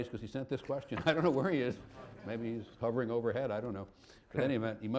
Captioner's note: laughter